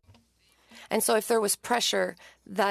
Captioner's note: speaking French